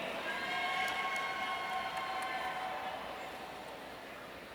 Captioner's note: audience cheering